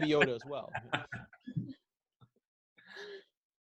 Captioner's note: laughing